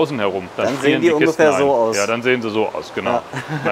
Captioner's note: laughs